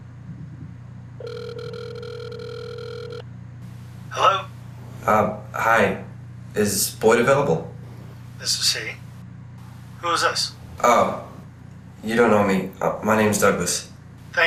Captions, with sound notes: [Ringing] hello? um hi is Boyd available this is he, who is this? oh, you don't know me my name is Douglas